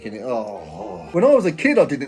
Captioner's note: groaning